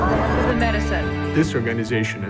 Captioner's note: ambient sound of news anchors